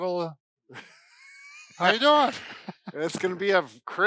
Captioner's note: laughs